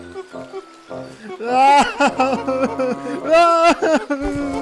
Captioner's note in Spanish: Llora